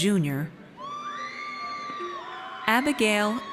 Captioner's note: audience cheers